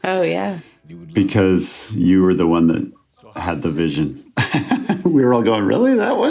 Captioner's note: laughs